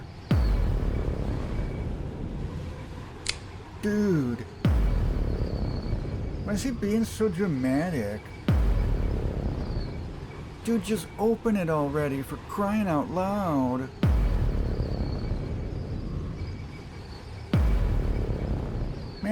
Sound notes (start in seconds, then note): 0.2 cinematic boom; 3.2 click; 4.6 cinematic boom; 14.0 cinematic boom